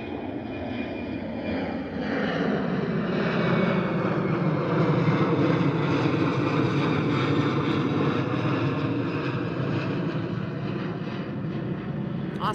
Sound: airplane engine

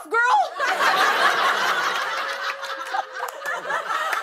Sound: laughter

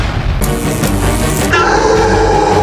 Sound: beacon destabilizing

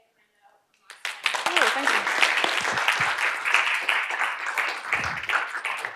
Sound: applause

